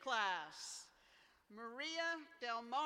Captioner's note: none